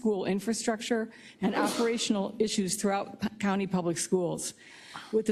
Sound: cough

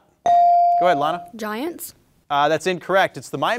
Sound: bell ringing

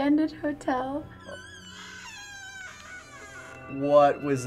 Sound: door hinge squeaks

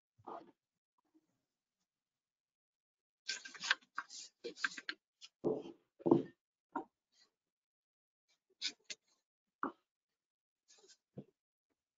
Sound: silence from 0:53:28 to 0:53:51

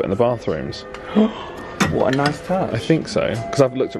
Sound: gasps

